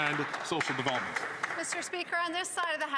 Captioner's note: some Applause